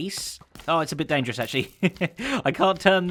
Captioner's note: chuckles